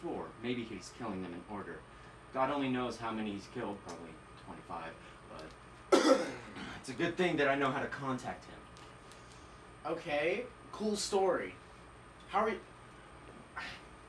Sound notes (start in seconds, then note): 5.9 cough of disrespect; 13.6 sigh of confusion